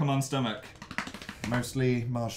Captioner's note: belly slapping noise